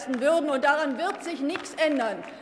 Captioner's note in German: Beifall bei Abgeordneten der LINKEN